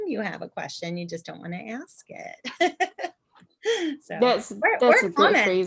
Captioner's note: laughter